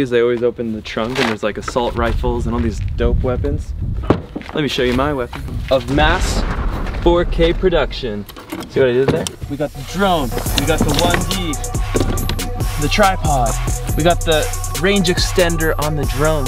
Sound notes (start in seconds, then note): 5.4 explosion; 9.7 trap music